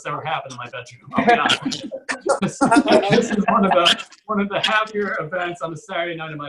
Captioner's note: audience Laughs